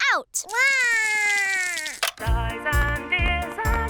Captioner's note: cries